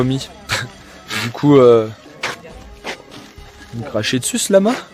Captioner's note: lama spitting